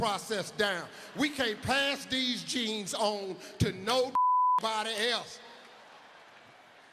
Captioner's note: beep